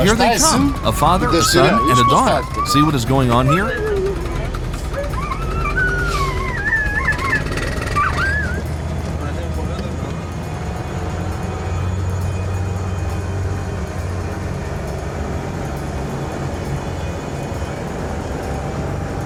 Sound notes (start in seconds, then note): 5.0 dogs whining; 9.2 car engine revving